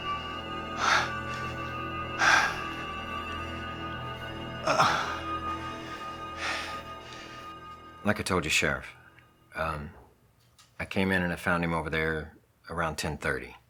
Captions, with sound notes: (suspenseful music) (heavy breathing) Like I told you sheriff, I came in and I found him over there around 10:30.